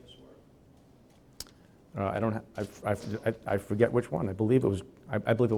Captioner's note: stutters